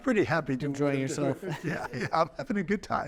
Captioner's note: chuckling